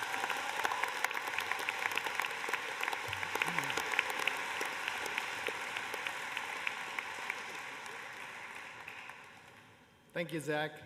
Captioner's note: applause